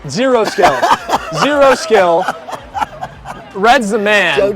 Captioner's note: laughing